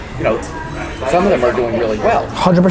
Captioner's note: none